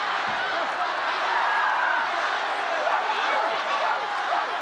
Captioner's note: crowd yelling